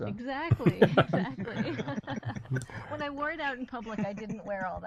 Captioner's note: laughs